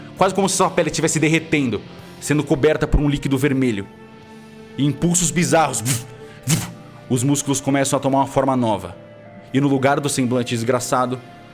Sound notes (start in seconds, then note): 6.0 vush vush